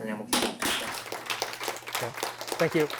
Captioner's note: applause